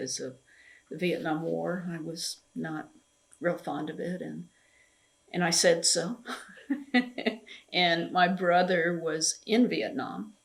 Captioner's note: laughs